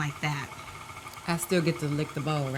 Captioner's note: mixer whirring